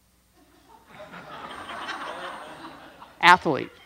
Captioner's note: audience laughs